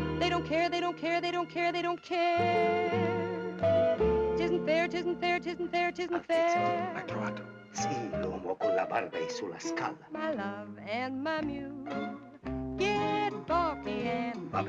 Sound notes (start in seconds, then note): 6.2 Italian spoken audio; 14.5 Italian spoken audio